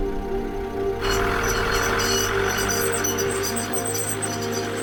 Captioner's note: car squeaking